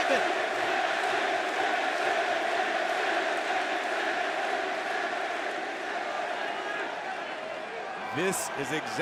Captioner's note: crowd cheering